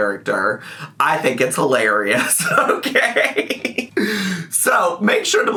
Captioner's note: laughs